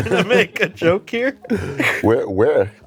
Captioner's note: laughs